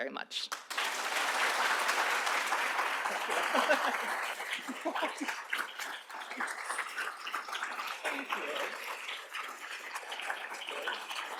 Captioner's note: applause